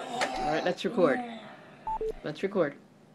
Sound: voiceover

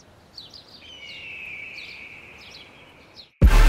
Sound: hawk call

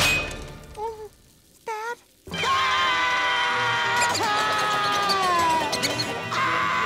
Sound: screaming, crying

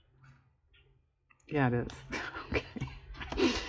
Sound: laughs

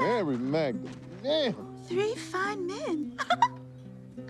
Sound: laughs

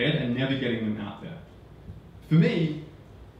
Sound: none

